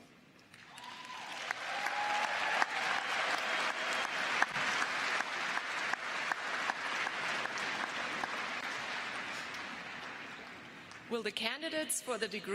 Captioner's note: cheers and applause